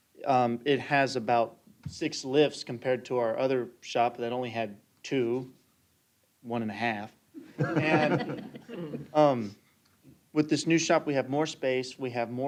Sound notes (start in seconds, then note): 7.4 chuckling